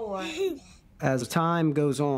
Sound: child laughter

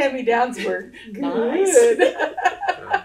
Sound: laughter

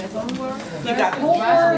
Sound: voiceover

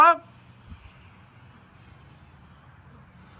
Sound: blowing air continues

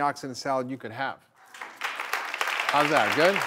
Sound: clapping

